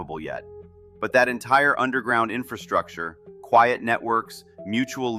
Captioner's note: thoughtful